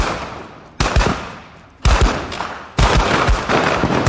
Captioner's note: guns firing